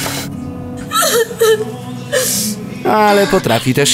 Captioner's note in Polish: płacz